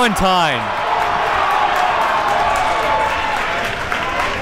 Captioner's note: crowd cheers